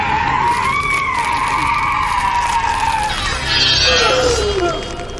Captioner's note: woman screaming